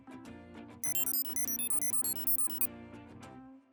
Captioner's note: beeping